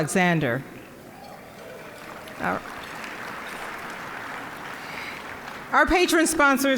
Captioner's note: applause